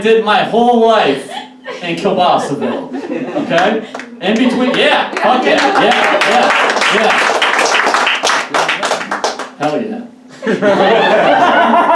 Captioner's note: audience Claps; audience Applauds; audience Laughs